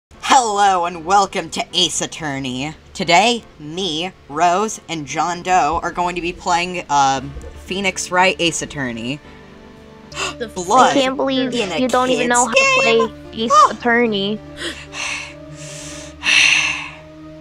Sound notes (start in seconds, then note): 10.1 gasp; 14.6 another gasp; 14.6 panting that's slightly too late